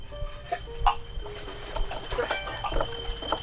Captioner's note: gagging